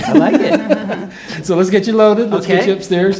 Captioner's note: laughter